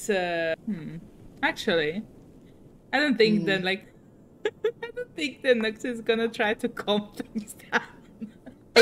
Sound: laughs

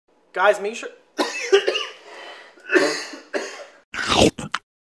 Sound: coughing

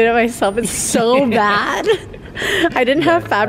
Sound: laughing

